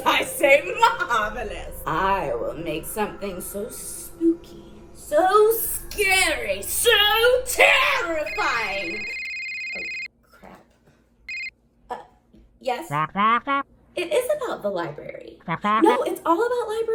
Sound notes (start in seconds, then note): 8.2 phone rings